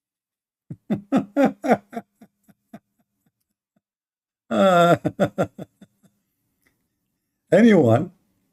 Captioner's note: Ketawa